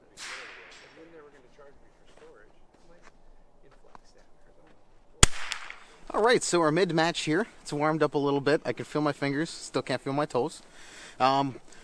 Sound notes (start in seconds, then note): 0.0 people talking; 0.2 rifle fires; 5.2 rifle fires